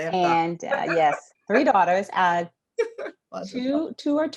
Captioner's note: laughs